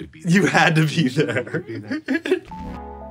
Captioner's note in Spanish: Risas